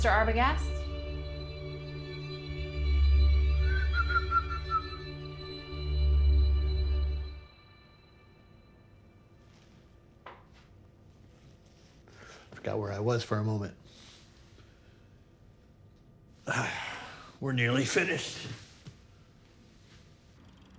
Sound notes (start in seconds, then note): 2.8 Chris whistles